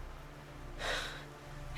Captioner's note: sigh